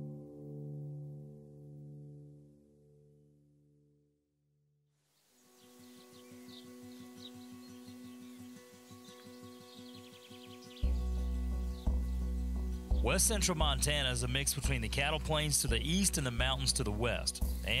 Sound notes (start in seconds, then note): 5.7 birds chirping; 5.7 peaceful music